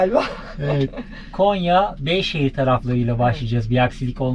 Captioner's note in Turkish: kahkaha